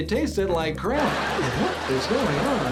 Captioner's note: laughter